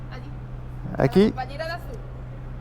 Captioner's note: Spanish